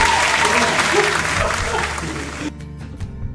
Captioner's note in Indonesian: ketawa